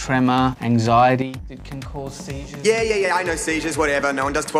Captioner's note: voice fades